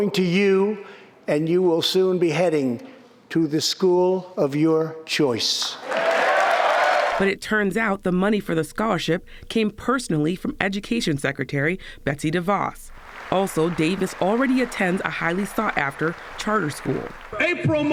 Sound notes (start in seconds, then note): 5.7 cheering and applause